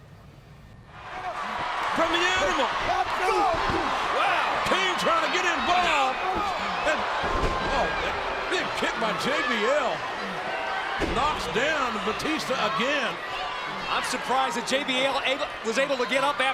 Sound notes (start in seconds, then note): 1.1 crowd cheering